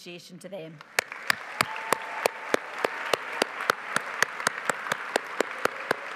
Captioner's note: audience cheering and applauding